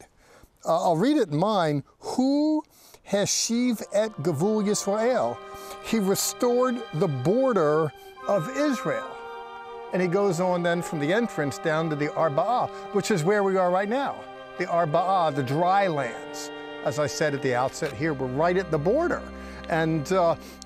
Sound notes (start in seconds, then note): 2.7 speaking in Hebrew